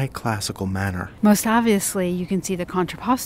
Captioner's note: voiceover